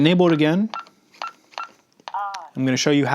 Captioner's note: beeping sounds